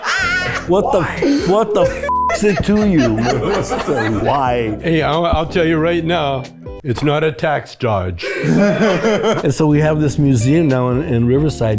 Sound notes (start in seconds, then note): 0.0 group laughs; 8.2 group laughs